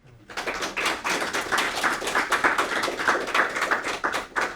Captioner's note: audience applauding